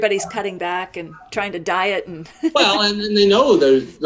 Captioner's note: laughs